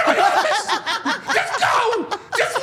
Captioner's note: Steph and Elyse laughing